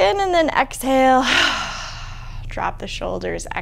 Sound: deep exhaling

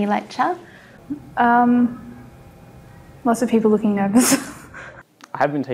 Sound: laughs

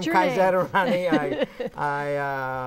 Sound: laughing

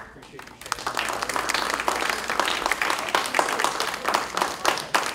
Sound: audience applauds

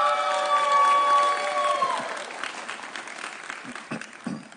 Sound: audience cheering

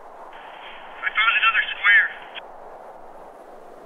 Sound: two-way radio

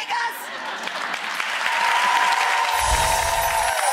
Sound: applause

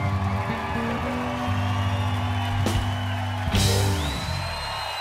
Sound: cheering and applause

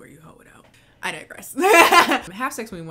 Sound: laughing

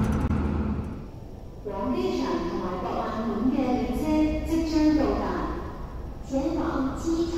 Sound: Cantonese; Mandarin

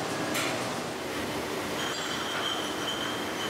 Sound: bottles clatter

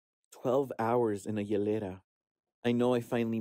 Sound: actor speaking Spanish

